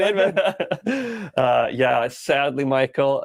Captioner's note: both laugh